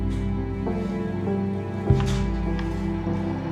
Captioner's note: sound of fabric rustling